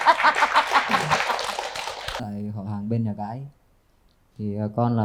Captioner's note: applause